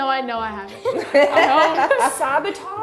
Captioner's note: laughing